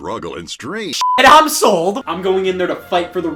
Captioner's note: beep